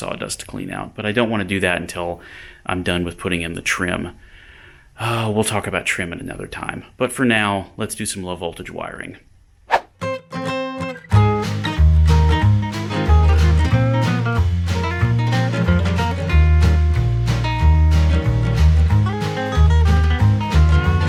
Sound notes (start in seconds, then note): 9.6 sound effect